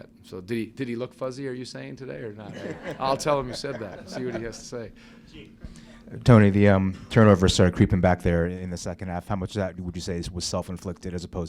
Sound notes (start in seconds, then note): 2.4 laughter